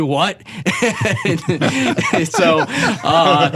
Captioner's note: laughing